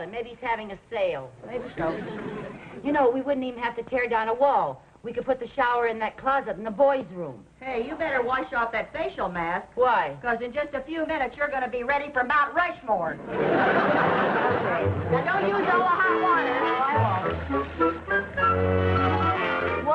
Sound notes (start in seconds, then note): 13.2 audience laughing; 17.9 light orchestral music